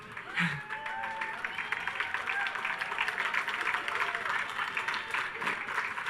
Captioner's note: audience cheers and applauds; laughs